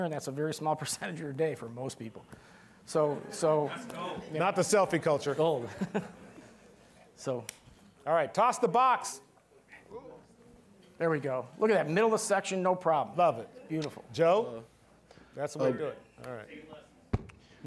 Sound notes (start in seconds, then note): 2.3 all laughing